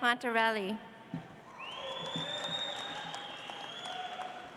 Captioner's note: audience applauds